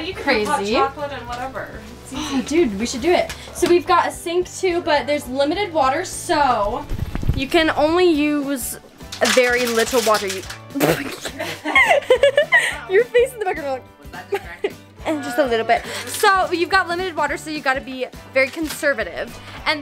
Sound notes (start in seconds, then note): 9.1 plastic bottle crumbling; 10.7 laughing